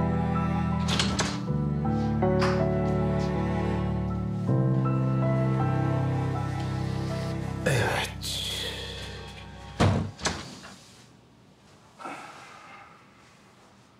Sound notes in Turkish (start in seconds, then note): 0.8 Kapı açıldı